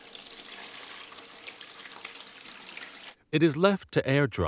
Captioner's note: water splashes in bowl